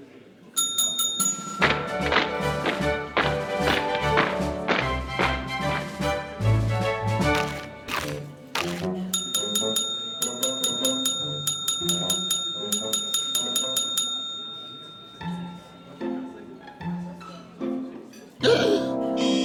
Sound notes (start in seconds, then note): 0.6 bell rings; 1.9 waiters marching; 9.0 bell ringing rapidly; 18.4 gasps